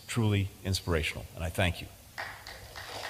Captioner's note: applause